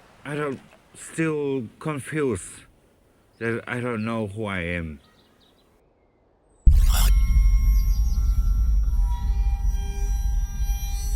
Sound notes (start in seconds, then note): none